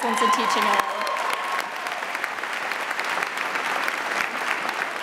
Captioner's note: audience applauding